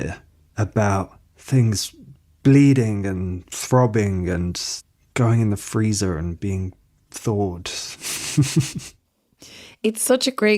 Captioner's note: he laughs